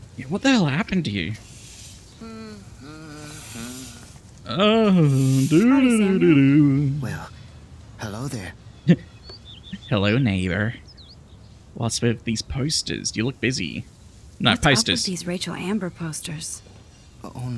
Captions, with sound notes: Yeah, what the hell happened to you? [hums] Hello, neighbor. What's with these posters? Do you look busy? No, posters. Hello, neighbor. What's with these posters? Do you look busy? No, posters.